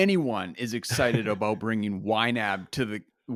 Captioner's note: laughs